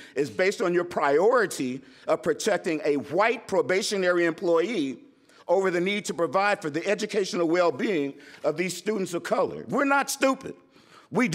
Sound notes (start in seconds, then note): none